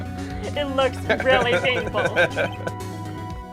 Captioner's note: laughs